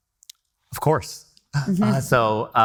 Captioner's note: chuckles